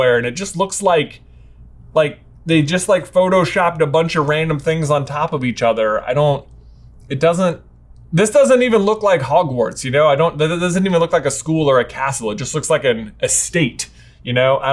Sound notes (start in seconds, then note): none